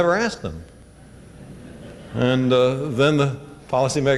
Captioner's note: laughter